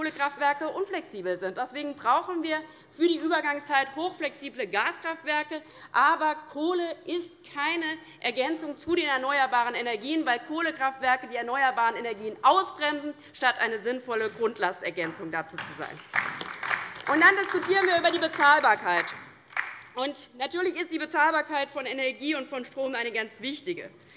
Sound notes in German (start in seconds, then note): 15.6 Beifall DIE LINKE